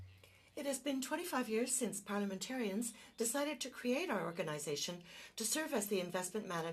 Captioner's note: speaking French